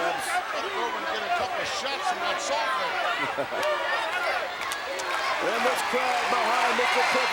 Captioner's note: laughs